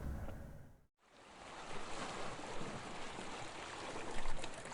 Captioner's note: waves splashing